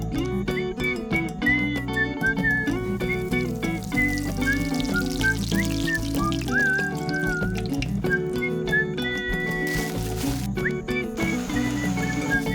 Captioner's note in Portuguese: assovio